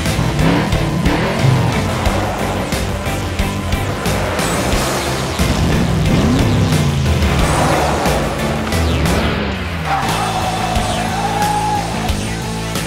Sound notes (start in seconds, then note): 0.2 engine revving; 6.2 engines revving